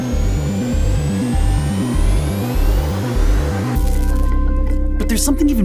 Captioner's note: electronics whirring continues